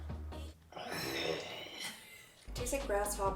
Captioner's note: groans